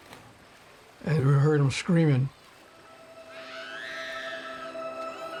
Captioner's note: child screaming